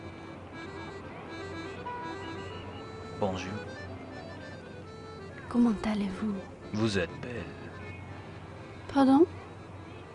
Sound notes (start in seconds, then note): 0.2 traditional French accordion music; 2.7 speaking in French